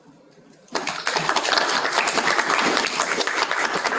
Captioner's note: applause